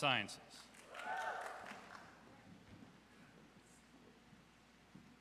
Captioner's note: audience cheers